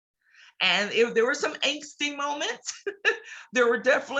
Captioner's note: laughs